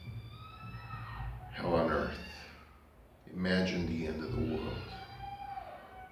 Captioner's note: screaming in background